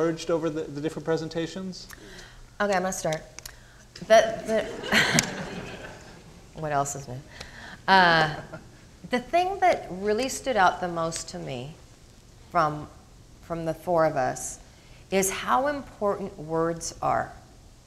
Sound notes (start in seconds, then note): 4.2 crowd laughing